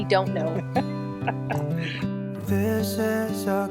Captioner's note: laughs